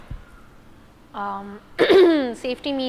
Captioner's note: clears throat